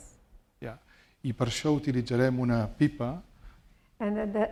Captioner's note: speaking spanish